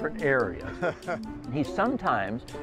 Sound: laughs

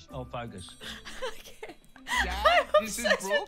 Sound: laughing

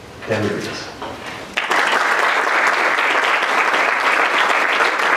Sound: applause

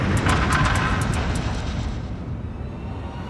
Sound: claws tapping; suspenseful music

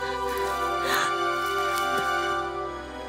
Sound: gasps

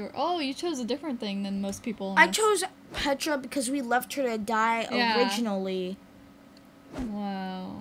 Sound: none

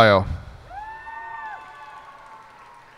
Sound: cheers and applause

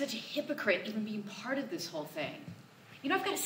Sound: none

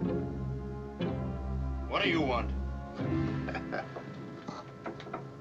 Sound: chuckling

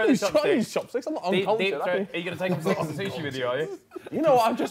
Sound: group chattering

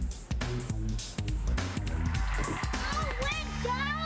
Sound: audience cheering onis televion show

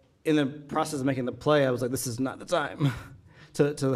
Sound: chuckling

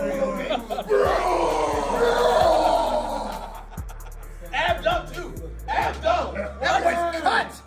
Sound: laugh

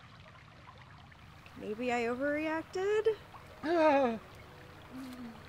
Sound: Barry wails

